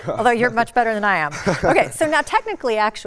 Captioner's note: laughs